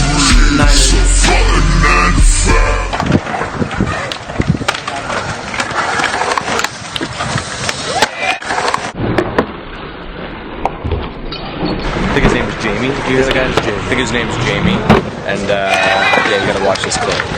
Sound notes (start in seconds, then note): 12.4 off-screen voice